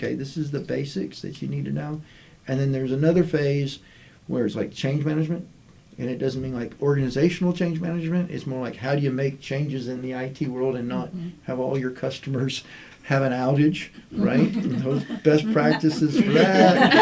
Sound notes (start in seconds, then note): 14.2 laughter